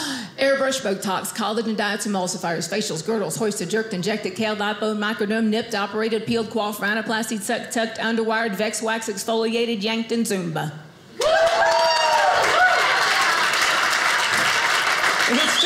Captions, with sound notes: Airbrush, botox, collagen, diets emulsifier, facials, girdles, hoisted, jerked, injected, kale, Lipo, microbiome, nipped, operated, peel, quaff, rhinoplasty, tucked, underwire, vex, wax, exfoliated, yanked, and Zumba. (audience cheers) (audience applauding)